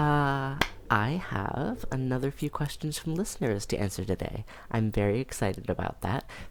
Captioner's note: claps